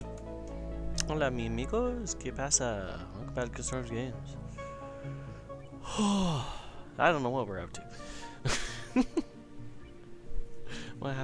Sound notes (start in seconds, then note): 5.8 sigh; 8.4 laughter